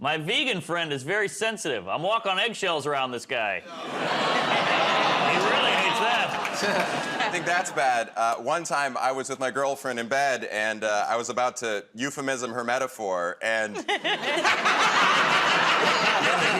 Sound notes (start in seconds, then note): 3.7 audience "Aw"s; 13.7 laughter